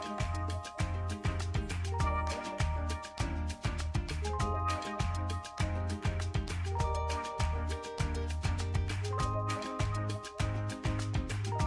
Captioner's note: applause